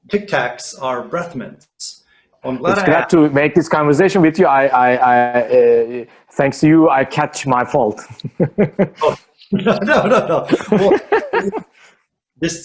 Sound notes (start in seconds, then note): 7.9 laughing